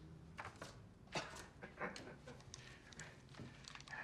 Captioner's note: chuckles